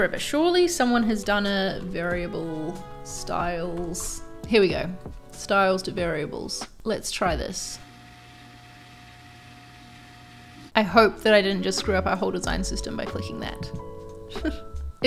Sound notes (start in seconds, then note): 7.7 computer whirring